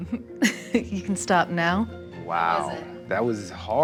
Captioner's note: laughs